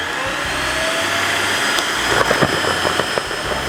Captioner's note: vacuum sucking